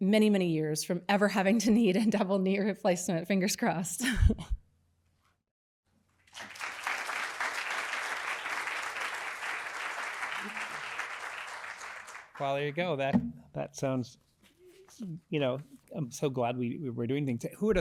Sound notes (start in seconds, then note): 4.0 applause